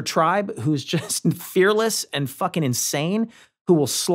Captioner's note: laughs